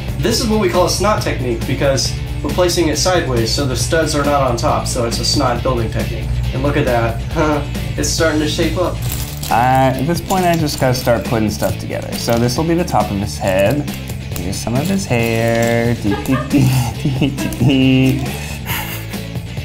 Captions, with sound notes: This is what we call a SNOT technique, because we're placing it sideways, so the studs are not on top, so it's a SNOT building technique. And look at that. (chuckles) It's starting to shape up. - At this point, I just gotta start putting stuff together. So this'll be the top of his head. And use some of his hair. (laughs) (upbeat music)